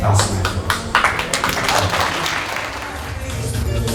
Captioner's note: applause